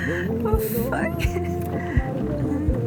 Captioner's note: sigh